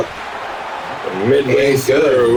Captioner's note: crowd Noises